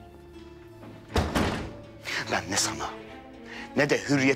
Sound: door closing sound

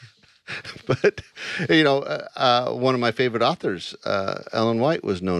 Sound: laughs

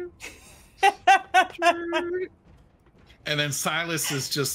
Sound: laughs

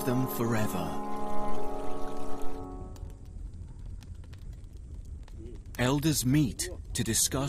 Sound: Kikuyu people speak in foreign language

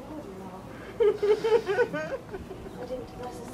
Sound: laughter

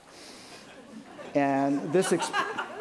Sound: laughter

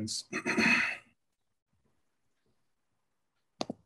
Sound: clears throat

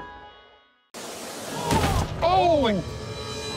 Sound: thump

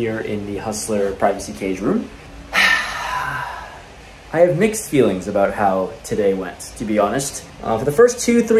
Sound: sigh

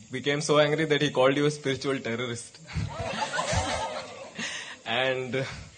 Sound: few laugh

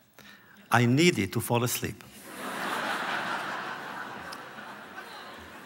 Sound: laughter

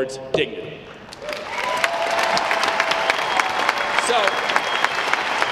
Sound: audience clapping

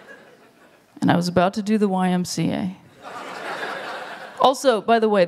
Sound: laughter

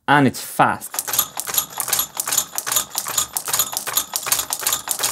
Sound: gates activating repeatively

